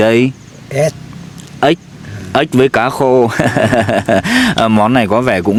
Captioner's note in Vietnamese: tiếng cười